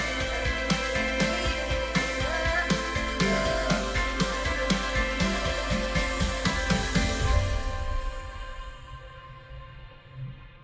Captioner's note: children’s voices talking over each other